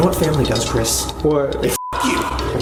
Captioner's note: beep